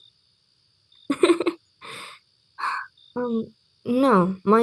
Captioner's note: lucy giggles, then slows and exhales